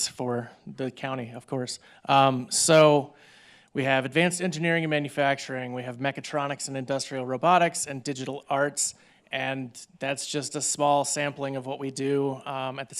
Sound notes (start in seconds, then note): none